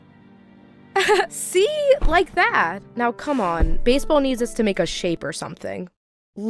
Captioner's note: laughs